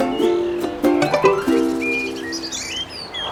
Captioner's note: birds; notification; birds